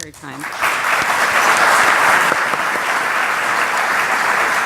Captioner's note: audience applauding